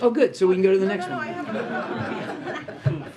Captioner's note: laughter